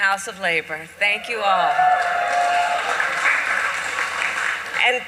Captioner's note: applause